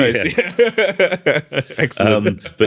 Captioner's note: laughter